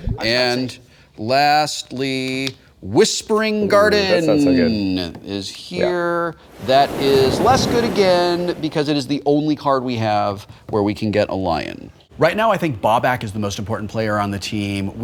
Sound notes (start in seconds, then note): 5.8 waves crashing